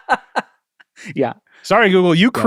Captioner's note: laughs